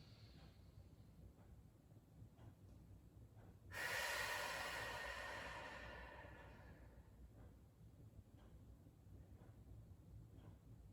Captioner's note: breathing